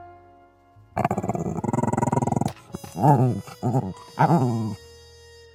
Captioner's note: Izzy growls